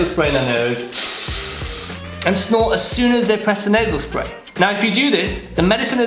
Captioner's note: nasal spray sound